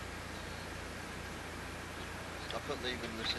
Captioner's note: sound of cupboard being opened